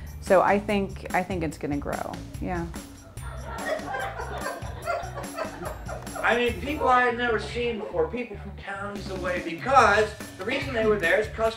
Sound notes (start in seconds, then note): 3.0 audience laughs; 3.6 upbeat music